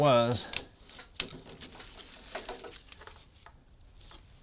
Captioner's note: clicking